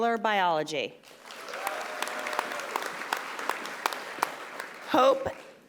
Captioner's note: audience applauding and cheering